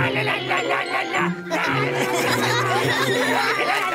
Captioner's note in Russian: Все смеются